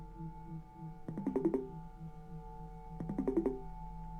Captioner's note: computer calling